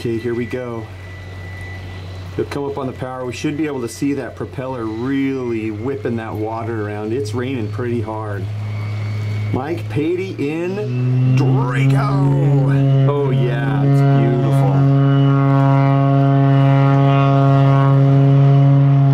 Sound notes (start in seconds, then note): 2.7 turbine spinning up loudly